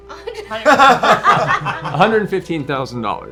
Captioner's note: laughter